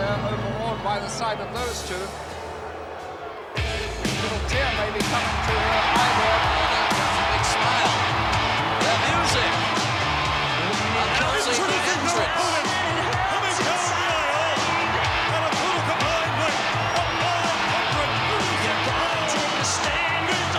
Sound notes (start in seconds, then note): 6.5 crowd cheering; 6.5 upbeat music